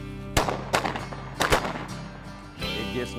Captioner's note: gun shots